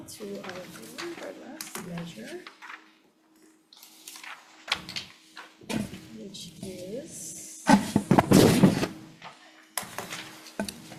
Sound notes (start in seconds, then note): 1.8 paper ruffling; 8.0 papers ruffling